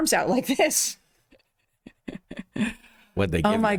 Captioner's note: laughing